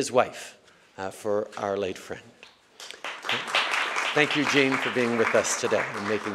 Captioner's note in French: Applaudissements